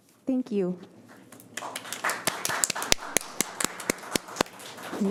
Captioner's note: audience applauding